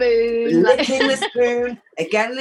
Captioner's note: chuckles